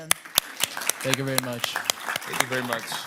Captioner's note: audience applauding